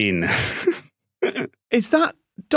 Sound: snickers

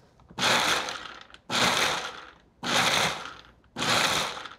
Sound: blender pulsing

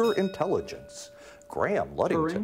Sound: bell ringing

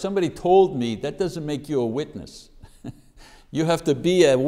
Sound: chuckles

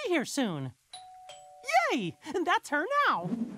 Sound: doorbell

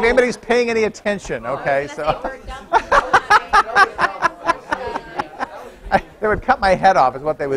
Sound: laughter

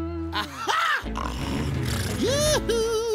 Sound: snoring

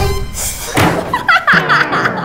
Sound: laughing

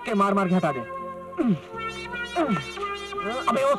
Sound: grunts

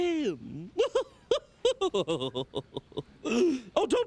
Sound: Nitwhite laughing

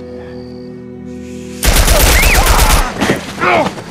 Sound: gunshots

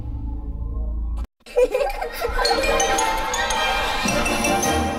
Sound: laughing and music resuming

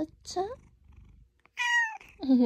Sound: purr

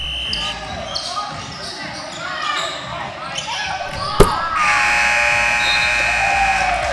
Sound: basketball game sound

